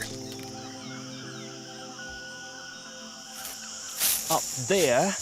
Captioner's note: birds chirping